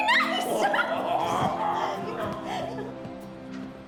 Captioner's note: laughing